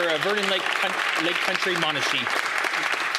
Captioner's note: applause